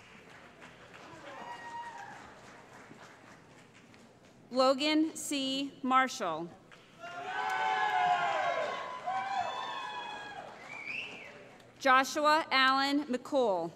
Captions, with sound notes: [ Applause ] Logan C. Marshall [ Cheering ] Joshua Allen McCool